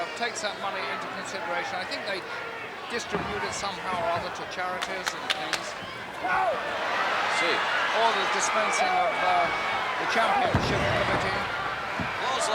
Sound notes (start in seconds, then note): 5.0 wrestlers grunting